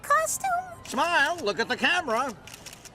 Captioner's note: camera shutter clicking